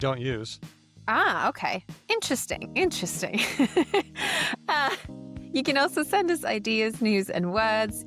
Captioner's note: laughs